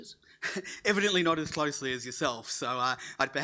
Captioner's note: laughing